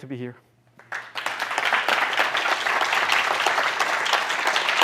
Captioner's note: applause